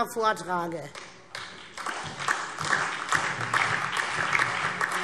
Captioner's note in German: Beifall SPD und AfD